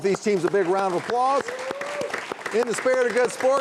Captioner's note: audience applauding and cheering